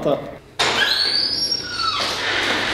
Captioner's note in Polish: pisk drzwi